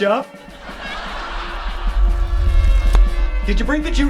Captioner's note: audience laughing